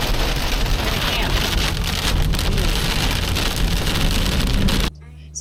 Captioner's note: rain drowns out talking